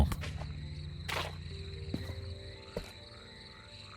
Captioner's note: frogs croaking